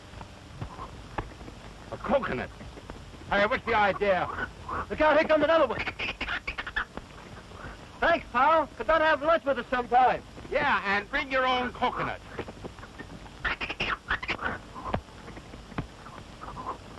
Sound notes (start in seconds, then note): 5.7 chattering; 13.2 chatters